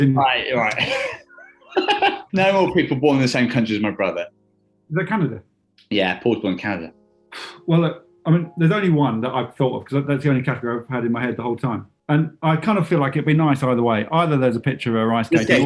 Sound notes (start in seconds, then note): 0.3 laughing; 7.4 sighs